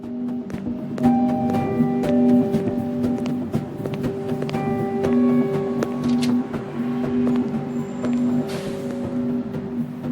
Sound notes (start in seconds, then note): 1.2 footsteps approaching